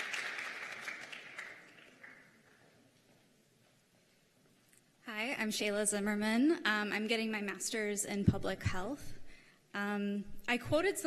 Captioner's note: cheers and applause